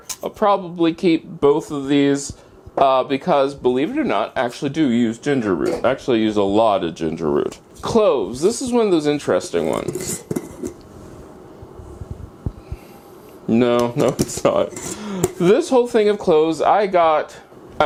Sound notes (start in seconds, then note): 9.8 opening jar sound